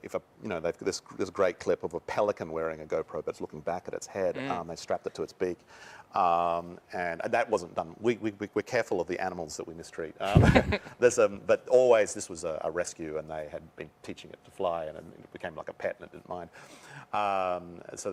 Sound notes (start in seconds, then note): 10.2 laughter